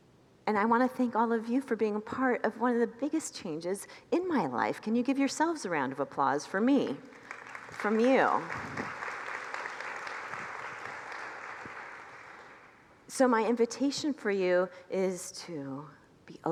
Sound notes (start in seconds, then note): 9.9 congregants applaud